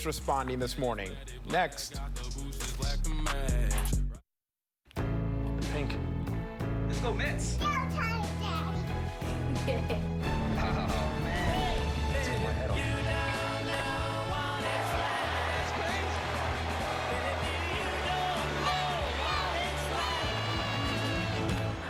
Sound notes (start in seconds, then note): 9.3 giggling; 17.8 crowd cheering